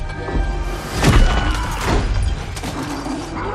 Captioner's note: thunderous pounding; man screams; roaring